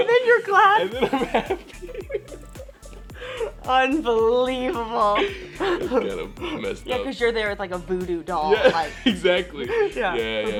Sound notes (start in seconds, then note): 0.8 laughs; 3.0 Elle and Justice laughing